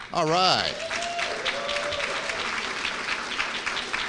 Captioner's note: applause